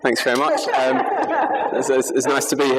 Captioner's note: laughter